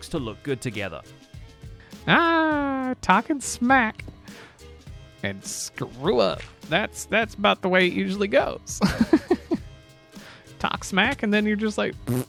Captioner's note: chuckles; blows raspberry